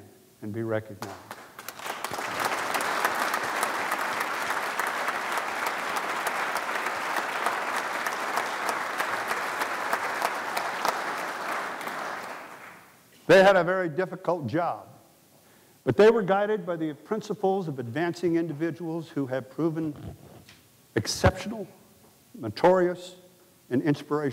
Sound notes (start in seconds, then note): 5.5 applause